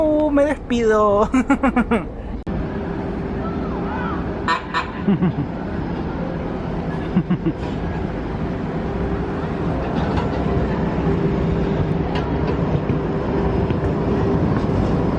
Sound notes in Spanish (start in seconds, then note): 1.3 risas; 2.7 sonido ambiente de tren y paradero